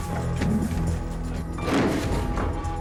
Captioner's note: crack